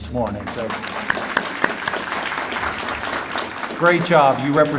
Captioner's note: audience applauding